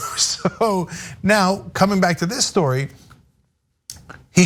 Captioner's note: laugh